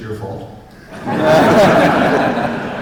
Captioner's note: laughter